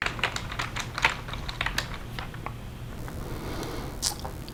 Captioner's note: keyboard clicking